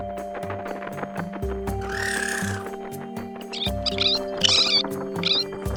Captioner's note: chirping